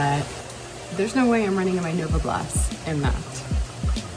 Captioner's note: pouring rain